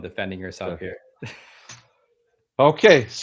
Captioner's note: chuckles